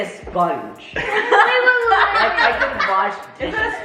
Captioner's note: family laugh